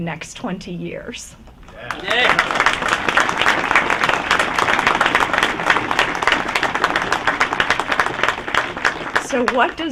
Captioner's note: applause